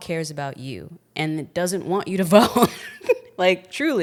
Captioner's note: laughs